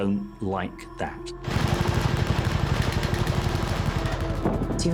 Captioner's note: gunfire